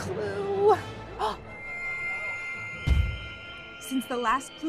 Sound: gasps

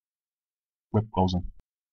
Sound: fast Pronunciation

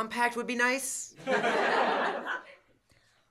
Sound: laughter

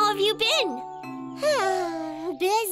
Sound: sighs

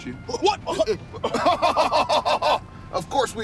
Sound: both laugh

